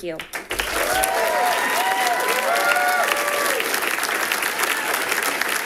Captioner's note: people cheering and clapping